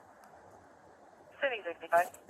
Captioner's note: radio chatter